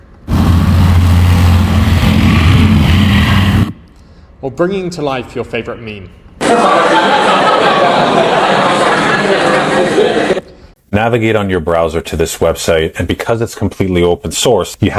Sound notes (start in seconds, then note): 1.4 motorcycle sound; 6.4 laughter